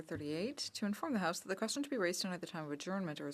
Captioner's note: speaking French